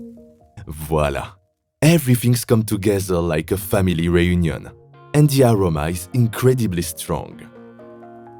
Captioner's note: speaking French